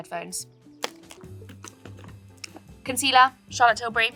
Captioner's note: bag contents clatter